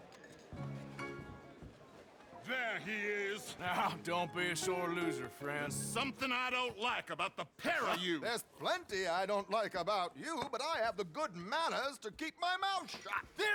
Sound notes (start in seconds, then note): 2.4 laughing